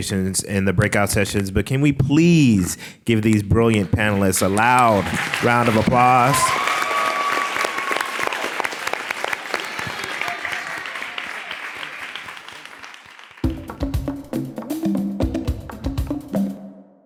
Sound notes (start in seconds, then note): 6.5 clapping; 13.3 upbeat music